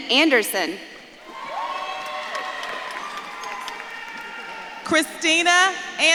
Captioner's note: audience claps and cheers